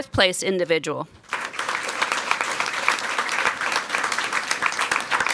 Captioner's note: people clapping